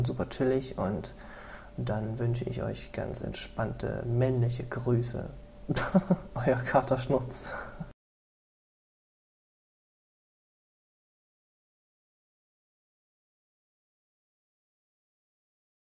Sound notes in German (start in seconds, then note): 5.7 lacht